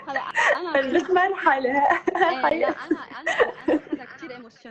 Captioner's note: laughing